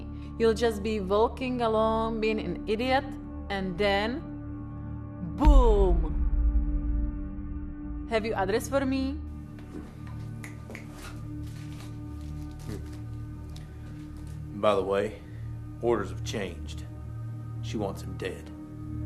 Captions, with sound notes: You'll just be walking along, being an idiot. And then, boom. Have you address for me? [snaps] By the way, orders have changed. She wants him dead.